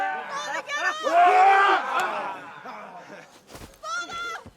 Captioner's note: all cheering